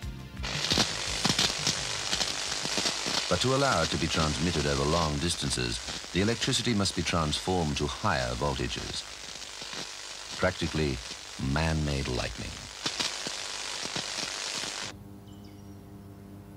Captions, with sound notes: (sparks buzzing) But to allow it to be transmitted over long distances, the electricity must be transformed to higher voltages. Practically, man-made lightning. (sparks buzzing) (birds chirping)